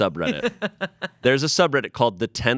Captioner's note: laughs